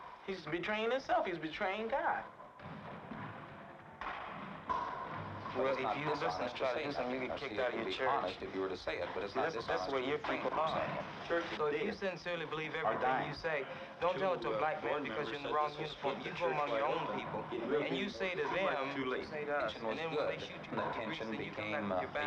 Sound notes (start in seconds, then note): 5.6 tennis balls bouncing